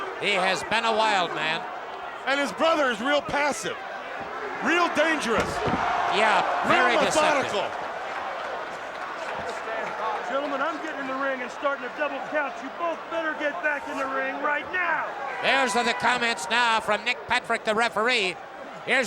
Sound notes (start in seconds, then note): 6.5 applause